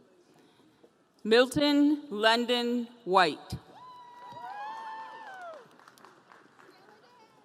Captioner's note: audience cheering